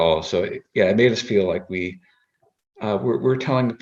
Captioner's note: none